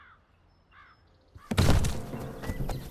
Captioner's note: body thumping